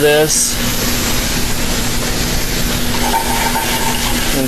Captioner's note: pan sizzling